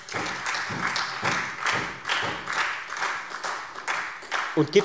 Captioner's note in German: Beifall Freie Demokraten und SPD